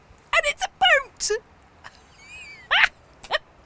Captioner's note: laughs